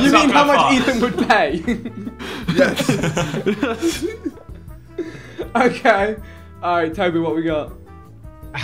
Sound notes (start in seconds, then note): 3.3 laughing